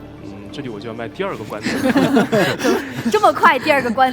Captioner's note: laughs